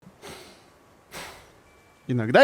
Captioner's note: sigh